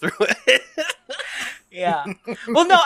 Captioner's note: laughs